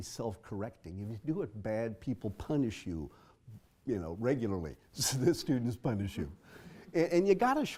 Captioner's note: laugh